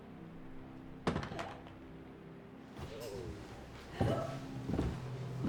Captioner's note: object thuds; gasps